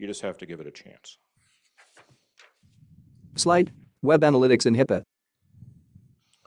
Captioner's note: papers flipping